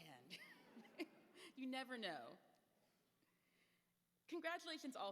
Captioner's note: laughs